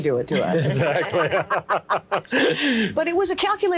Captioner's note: group laughs